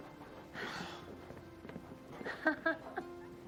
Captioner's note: Tipper chuckling